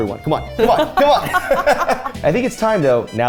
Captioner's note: both laugh